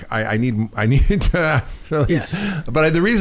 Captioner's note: chuckles